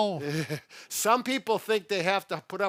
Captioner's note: laughing